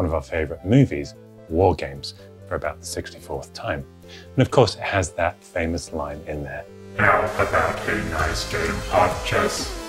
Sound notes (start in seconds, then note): 8.0 robotic Voice